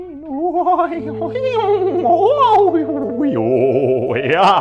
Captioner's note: spook moaning